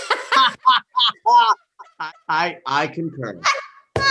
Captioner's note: laughs